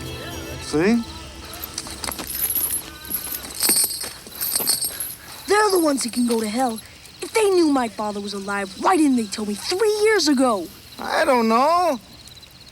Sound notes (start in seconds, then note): 2.2 chain rattles